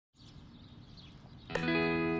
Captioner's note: birds chirping; bright music